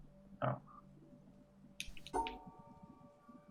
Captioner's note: none